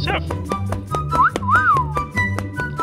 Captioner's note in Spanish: Silbatos